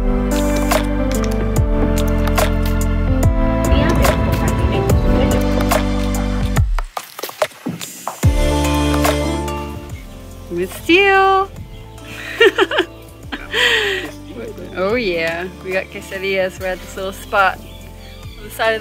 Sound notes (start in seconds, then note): 12.1 laughs